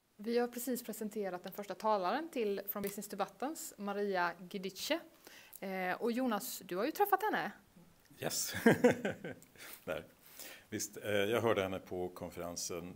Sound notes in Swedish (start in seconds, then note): 8.5 Skrattar